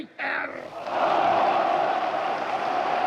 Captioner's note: cheering